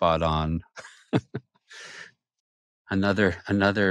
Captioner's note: laughs